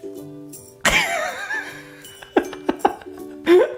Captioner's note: laughing